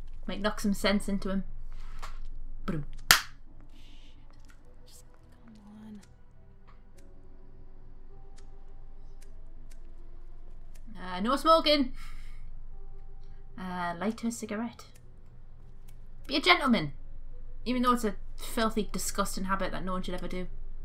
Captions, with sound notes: Might knock some sense into him... BADUM- [Clap] Errrrhh, no smoking! "Light her cigarette" Be a Gentleman... even tho it's a filthy, disgusting habit that no-one should ever do.